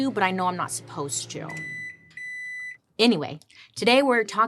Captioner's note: microwave beeps